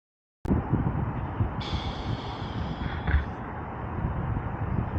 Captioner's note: traffic noise